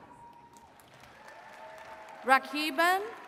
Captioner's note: attendees cheering and clapping